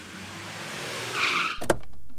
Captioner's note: Car halting; Car door opens